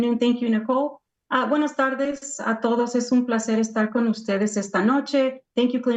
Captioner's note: speaks in foreign language